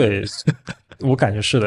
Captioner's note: laughs